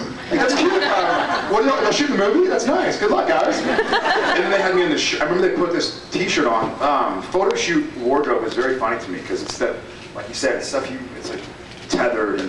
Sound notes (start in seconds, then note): 3.6 scattered laughs